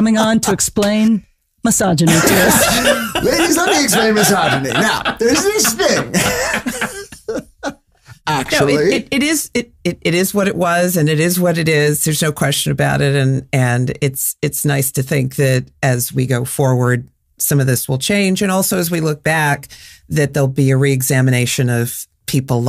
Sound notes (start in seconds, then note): 5.6 laughing